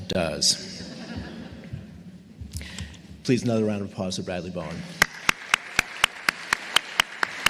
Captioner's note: chuckles